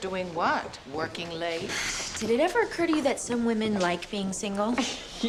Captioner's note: sighs; scoffs